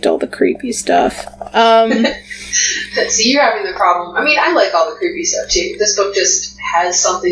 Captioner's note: sighs; laughs